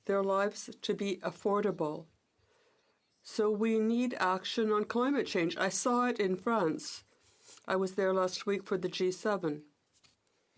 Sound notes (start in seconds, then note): 1.6 speaking French